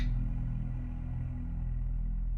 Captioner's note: click